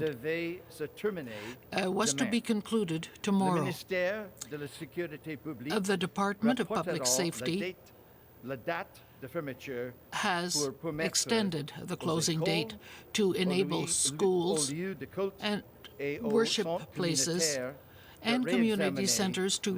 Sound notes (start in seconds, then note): 0.6 speaking french